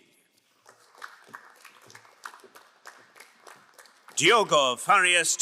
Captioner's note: crowd applauding